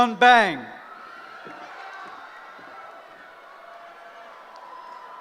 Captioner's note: cheering